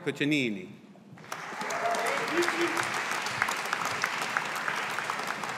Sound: audience applauding

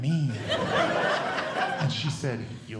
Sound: audience Laughing

